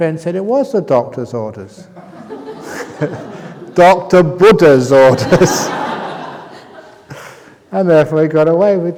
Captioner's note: laughter